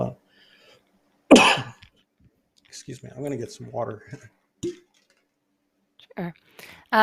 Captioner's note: coughs